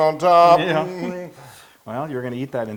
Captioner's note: laugh